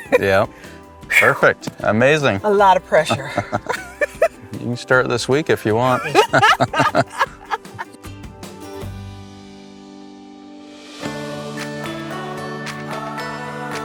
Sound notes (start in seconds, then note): 5.8 both laughing; 11.5 upbeat music